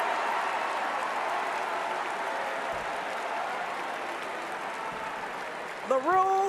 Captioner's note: cheers and Applause